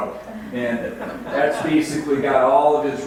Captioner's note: audience laughs